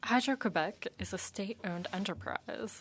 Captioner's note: speaking French